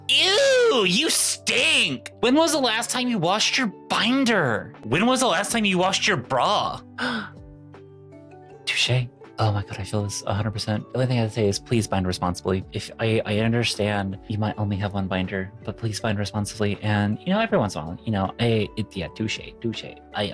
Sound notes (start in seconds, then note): 7.0 gasps